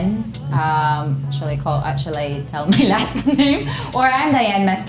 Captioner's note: laughs